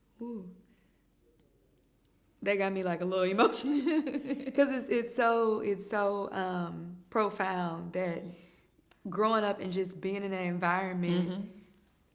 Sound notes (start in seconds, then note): 3.5 chuckling